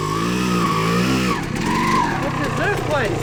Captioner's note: engine revving